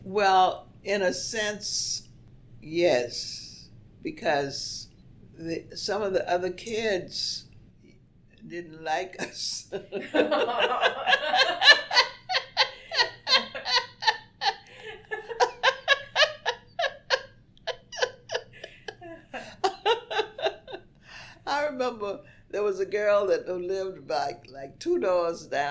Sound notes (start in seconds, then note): 9.6 both laugh